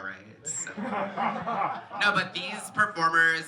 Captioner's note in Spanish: risas